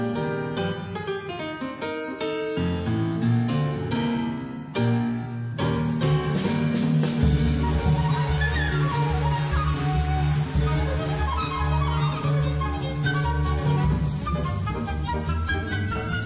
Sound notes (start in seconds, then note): 9.3 audience applauds; 12.7 orchestral jazz music